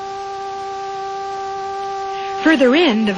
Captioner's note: buzzing sound